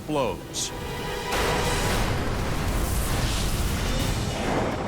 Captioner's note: boom